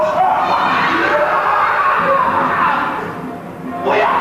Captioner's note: further screams